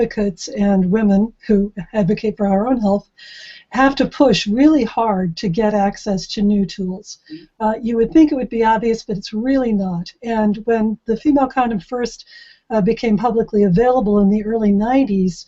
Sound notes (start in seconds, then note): none